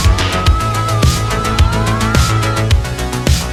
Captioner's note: screaming; upbeat music